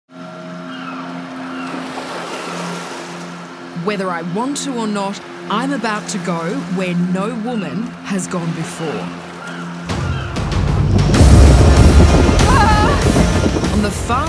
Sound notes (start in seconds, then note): 0.5 birds squawk; 9.6 dramatic music